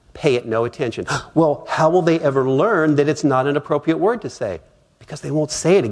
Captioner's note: gasp!